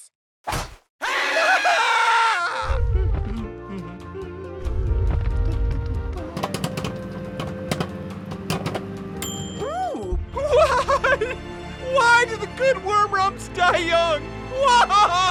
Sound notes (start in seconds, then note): 1.0 screaming; 2.9 gentle jazz music; 6.2 popcorn popping; 6.3 microwave dings